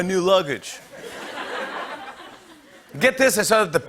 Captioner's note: laughter